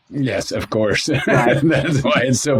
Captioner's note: laughs